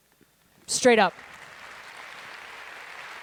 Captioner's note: applause